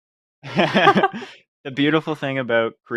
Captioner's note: laughs